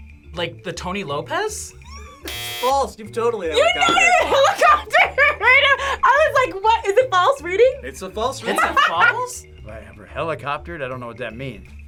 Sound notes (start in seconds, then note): 5.8 laughs